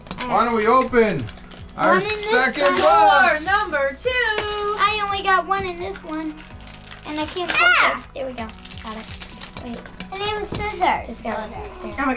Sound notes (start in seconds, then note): 7.8 shouting